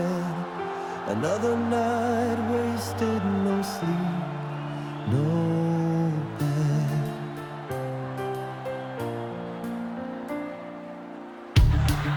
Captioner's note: applause; clapping